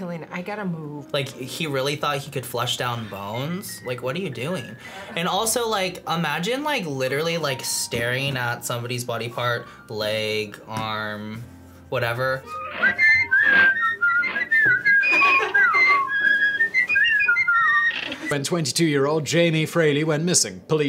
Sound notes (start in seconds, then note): 12.5 whistles happily; 14.8 React laughs